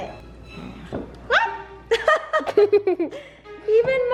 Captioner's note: laughs